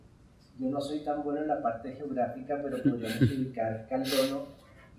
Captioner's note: speaking in Spanish